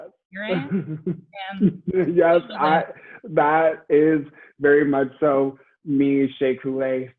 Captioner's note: laughs